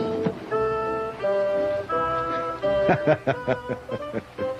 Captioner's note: chuckles